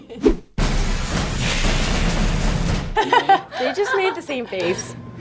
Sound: lightning sparks

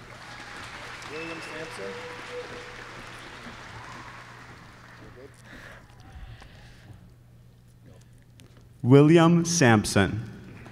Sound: applause

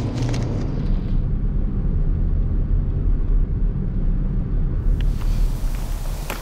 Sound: drone

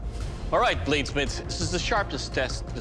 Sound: none

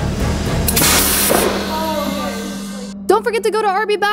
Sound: cannon hissing

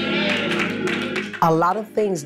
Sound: congregants clapping

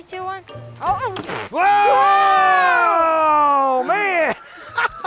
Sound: yelling

